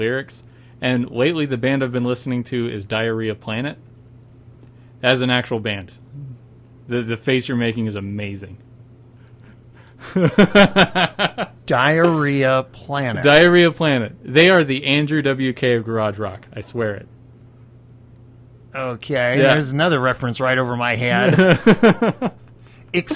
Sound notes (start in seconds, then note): 9.8 several second pause followed by laughter